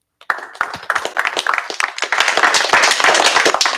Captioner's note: applause